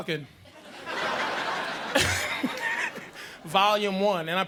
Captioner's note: audience laughing